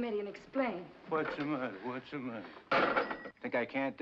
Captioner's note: phone slams down